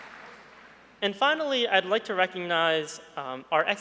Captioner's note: applause